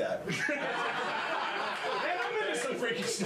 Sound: laughter

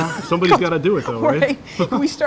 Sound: laughter

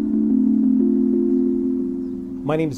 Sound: birds chirping

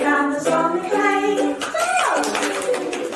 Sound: applause

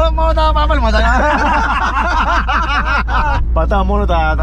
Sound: laughs

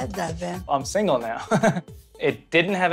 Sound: laughs

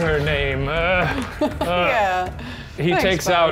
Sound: laughing

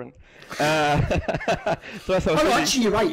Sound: laughing

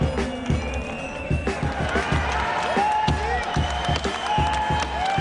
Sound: crowd cheers

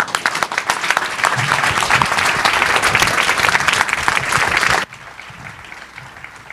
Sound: applause

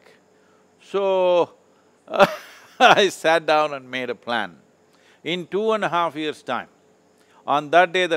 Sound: laughs

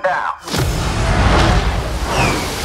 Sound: engines roar

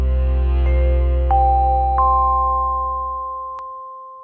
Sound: bells chiming

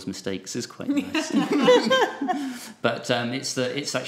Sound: group laughs

